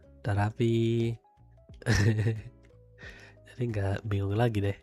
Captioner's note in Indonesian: tertawa